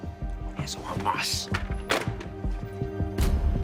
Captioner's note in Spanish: Ruido al colgar